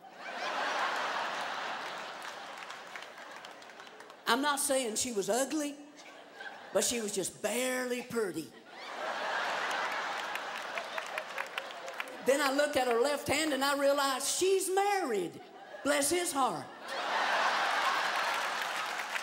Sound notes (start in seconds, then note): 0.0 laughter; 6.9 laughter; 16.7 laughter